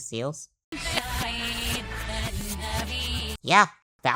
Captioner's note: "Yvan eht nioj" backwards